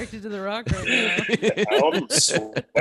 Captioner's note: laughter